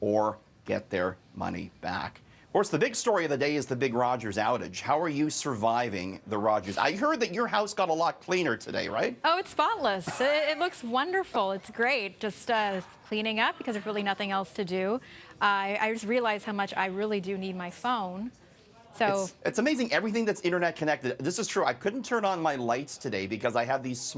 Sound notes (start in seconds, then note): 13.0 conversation din